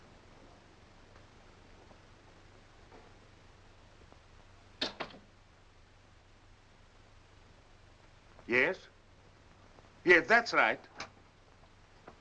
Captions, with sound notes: [door closes] Yes. Yes, that's right.